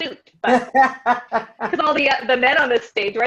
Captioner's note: laughing